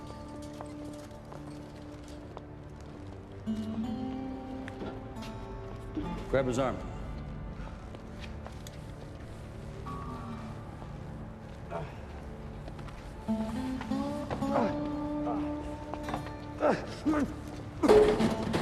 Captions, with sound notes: Grab his arm. (GRUNTING) (RETCHING)